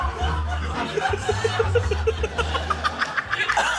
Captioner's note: laughs